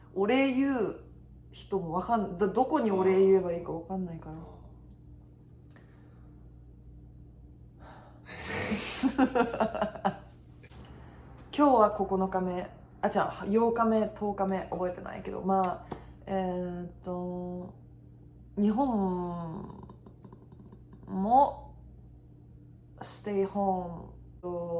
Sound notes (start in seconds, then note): 7.8 sigh